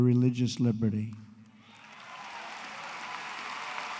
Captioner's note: applause